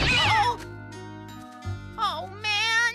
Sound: crash!

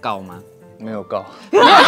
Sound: in Taiwanese

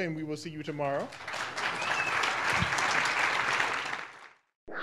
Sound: audience applauding

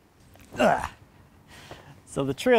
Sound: grunts

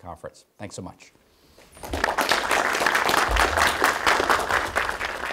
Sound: applause

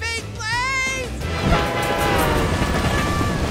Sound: train whistling

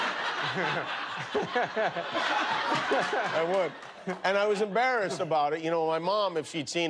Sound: laughter

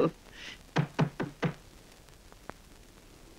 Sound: knock On Door

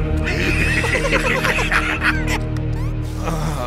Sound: all laugh

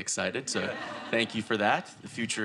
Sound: audience laughing

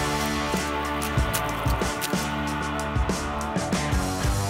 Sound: water splashing

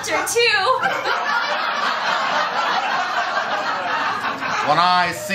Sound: laughter

